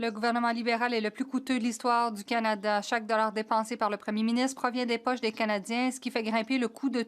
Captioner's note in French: voix de l'interprète